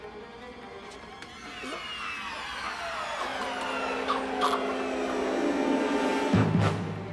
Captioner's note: gagging